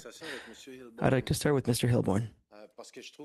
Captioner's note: speaking French